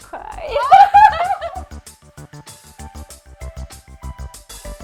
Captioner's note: laughs; upbeat music continues